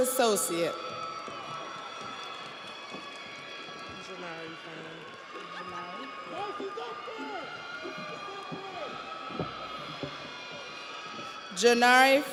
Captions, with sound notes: Robert Jones, Human Service Associate. (audience applauds) (audience cheers)